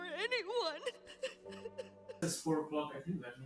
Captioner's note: sobbing